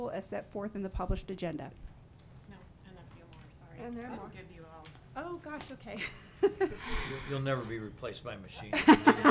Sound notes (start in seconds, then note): 6.0 laughing; 8.7 audience laughing